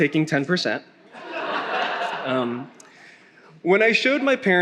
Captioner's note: attendee laughing